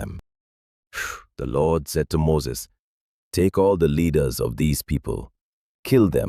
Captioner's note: exhales sharply